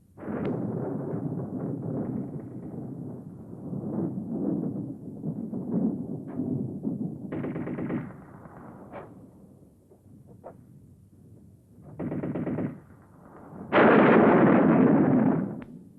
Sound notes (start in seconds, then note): 0.2 rumbling on screen; 7.3 machine gun fire on screen